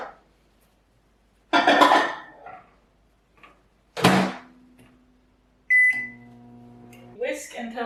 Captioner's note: microwave opening, closing, and beeping